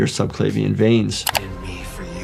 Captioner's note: screen clicking